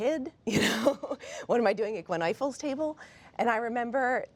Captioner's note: laughing